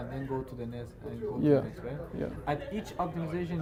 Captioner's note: faintly speaking